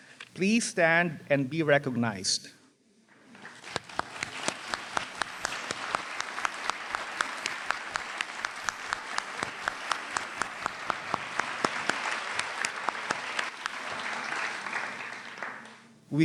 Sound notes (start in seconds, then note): 3.4 applause